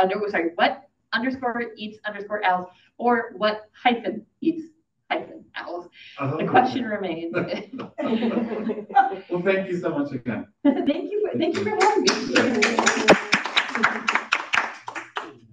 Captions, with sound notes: sorry, what_eats_owls or what hyphen eats hyphen owls. The question remains. (laughs) - Well, thank you so much again. - Thank you very much. (audience applauding)